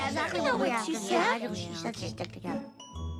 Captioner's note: all murmuring